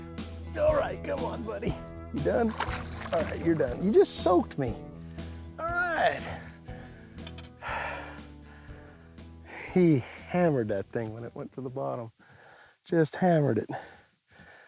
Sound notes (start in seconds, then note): 7.6 sighs